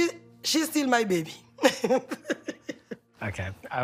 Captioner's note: chuckling